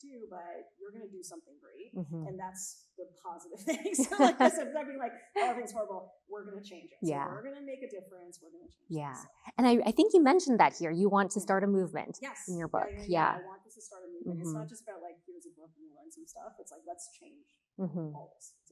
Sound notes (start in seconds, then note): 3.6 both laughing; 17.5 faintly speaks